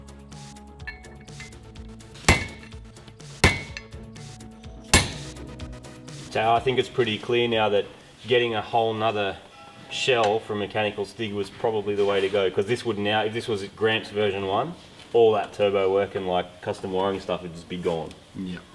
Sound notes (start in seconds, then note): 2.2 bang; 4.9 bang